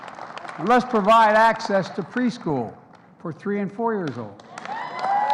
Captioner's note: applause